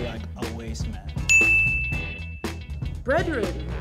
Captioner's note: dings